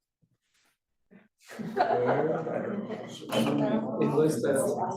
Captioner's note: students chattering